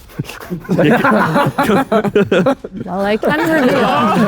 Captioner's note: group laughs